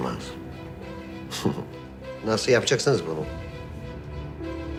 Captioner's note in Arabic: يضحك